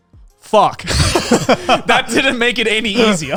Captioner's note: laughing